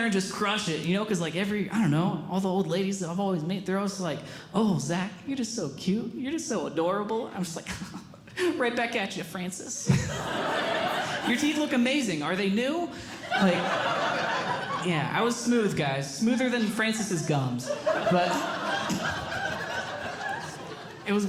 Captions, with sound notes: and just crush it, because every— all the old ladies I've always meet they’re always like, “Oh, Zach, you're just so cute. “You're just so adorable.” I’m just like, Right back at you, Francis. [Audience Laughing] Your teeth look amazing. Are they new? [Audience Laughing] Yeah, I was smooth, guys. Smoother than Francis's gums. [Audience Laughing]